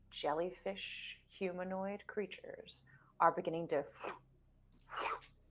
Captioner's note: trilling